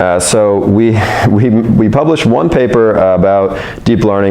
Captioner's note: laughs